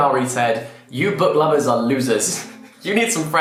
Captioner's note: laughing